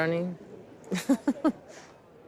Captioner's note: chuckles